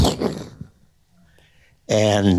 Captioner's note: imitates rumbling sound